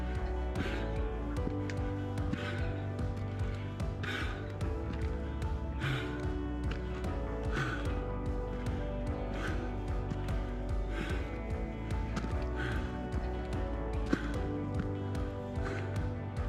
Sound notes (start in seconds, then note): 9.2 exhales